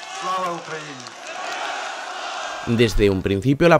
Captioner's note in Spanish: Multitud grita : Gloria a Ucrania